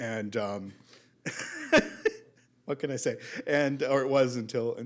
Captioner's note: laughs